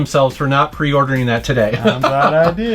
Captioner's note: laughing